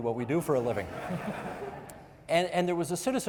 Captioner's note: audience members laughing